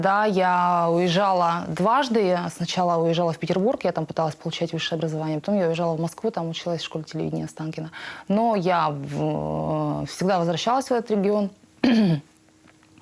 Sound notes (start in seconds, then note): 11.8 clears throat